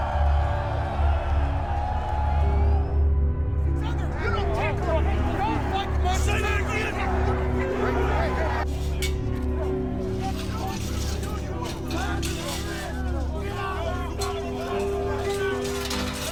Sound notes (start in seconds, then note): 0.1 crowd cheering; 4.7 men arguing